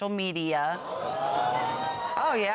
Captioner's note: audience exclaiming